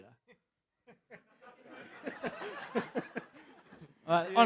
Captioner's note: laughter